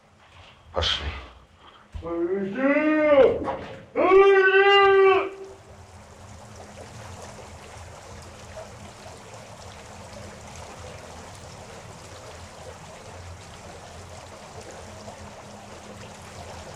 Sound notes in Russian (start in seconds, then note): 3.9 крик; 6.2 звук воды